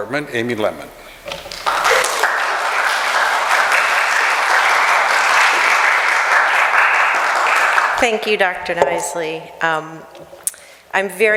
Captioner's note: applause